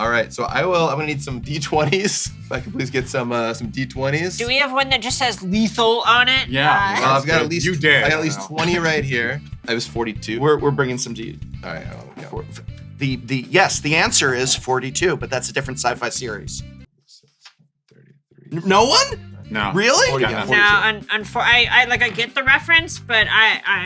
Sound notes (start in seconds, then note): 6.8 laughs; 17.7 counting; 18.6 music cuts out